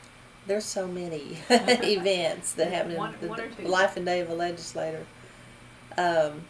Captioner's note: laughs